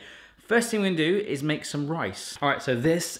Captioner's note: none